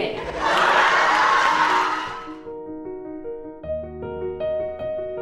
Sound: audience laughing

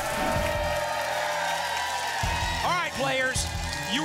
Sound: audience applause

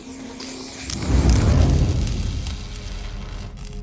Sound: sound of the angle grinder

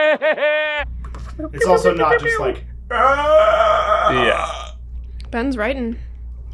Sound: death gurgle

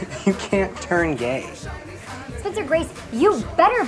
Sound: laughs

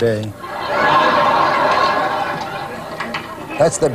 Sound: big laughter

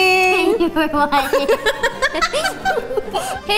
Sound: laughs

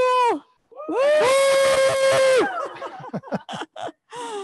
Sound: group cheers

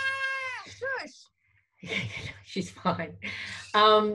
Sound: chuckles

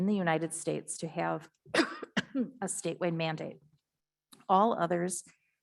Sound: coughs

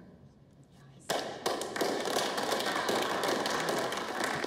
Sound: group applauds

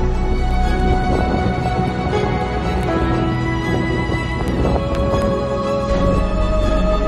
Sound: sound of wind

